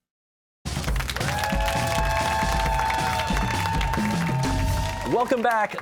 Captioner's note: cheers and applause